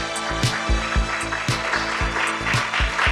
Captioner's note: theme music plays; audience applause